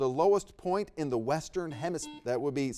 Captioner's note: buzzer beeps